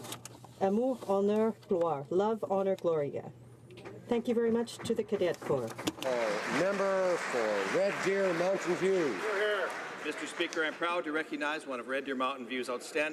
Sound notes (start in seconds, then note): 8.9 some Applause